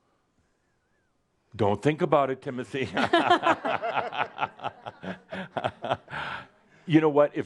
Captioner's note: he pauses; laughter